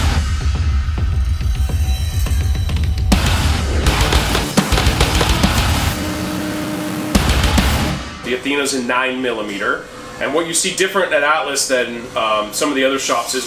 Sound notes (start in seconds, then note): 0.1 upbeat music; 3.6 gunshots